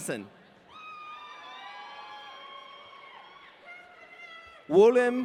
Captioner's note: audience cheering